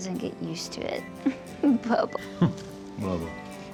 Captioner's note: giggles